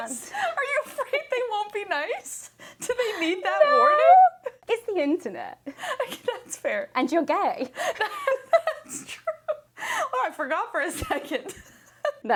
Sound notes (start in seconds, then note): 7.7 both laugh; 11.8 laughs